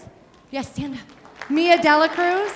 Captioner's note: audience applauding